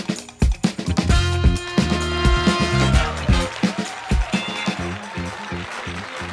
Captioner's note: audience cheering and clapping